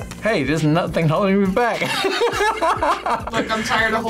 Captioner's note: laughs